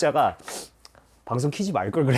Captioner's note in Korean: 훌쩍